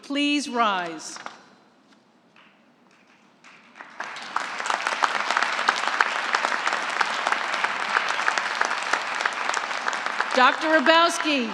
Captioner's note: applause